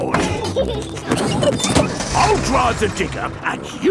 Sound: peppa and george laughing

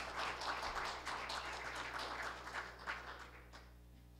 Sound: applause

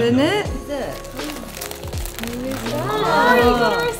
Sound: wrapping paper crinkling

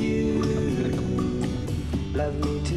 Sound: laughing

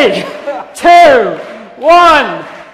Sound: applause

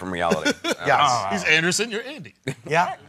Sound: laughing

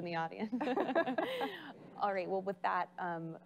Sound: laughing

